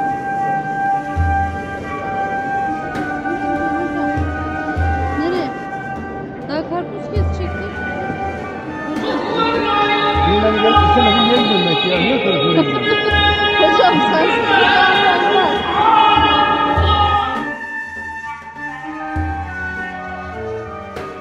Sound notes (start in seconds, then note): 0.1 background music; 5.2 speaking Turkish; 8.9 quran recitation; 10.5 speaking Turkish; 11.7 laugh; 17.5 background music